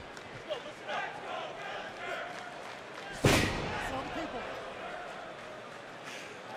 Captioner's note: fans chanting